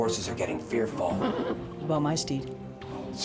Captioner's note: horse whinnies